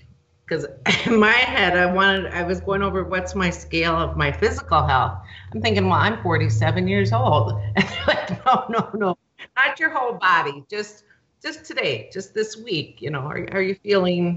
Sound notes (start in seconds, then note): 5.2 laughs